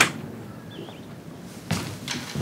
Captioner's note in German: Vogelgezwitscher